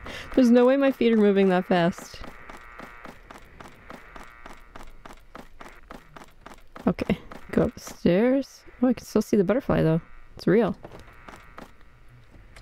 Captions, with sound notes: There's no way my feet are moving that fast! [Comically quick steps] Go up the stairs? I can still see the butterfly, though. It's real.